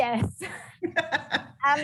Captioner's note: laughs